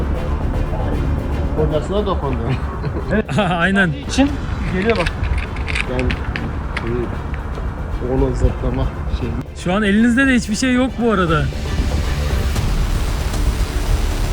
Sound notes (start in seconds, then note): 0.2 suspense music; 2.1 laughs; 5.1 suspense music; 11.5 suspense music